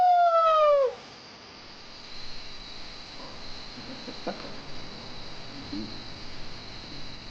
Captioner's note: insects chirping